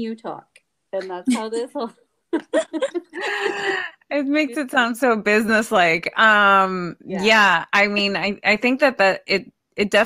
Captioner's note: laughter